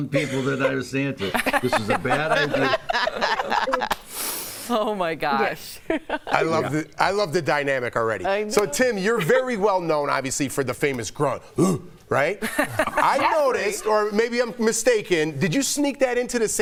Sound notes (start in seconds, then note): 0.0 laughter; 8.2 laughter